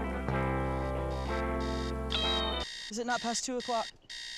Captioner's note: alarm blaring